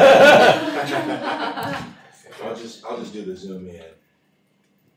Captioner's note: laughter